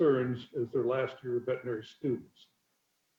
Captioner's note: murmurs